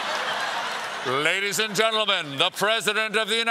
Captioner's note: laughter